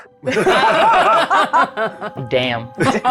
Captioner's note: everyone laughs